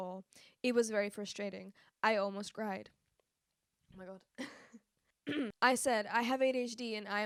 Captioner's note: clears throat